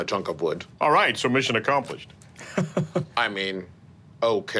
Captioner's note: laughs